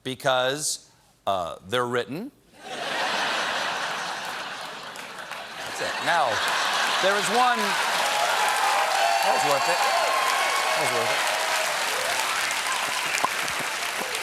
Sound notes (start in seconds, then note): 2.6 laughter; 2.8 cheers and applause